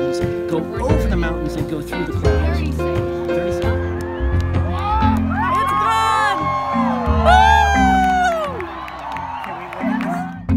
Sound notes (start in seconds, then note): 3.8 cheers